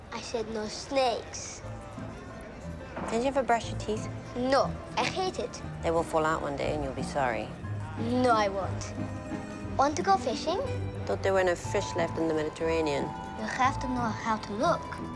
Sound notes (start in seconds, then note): none